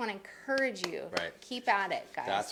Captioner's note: claps